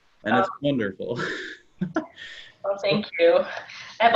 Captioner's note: chuckles